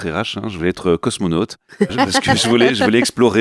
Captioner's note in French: Rires